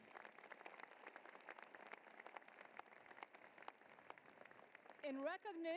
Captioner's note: applause